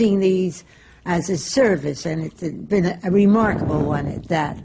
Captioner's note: none